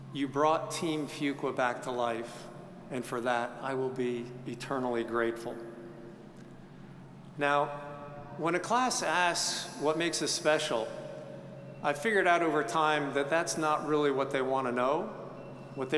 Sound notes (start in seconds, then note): none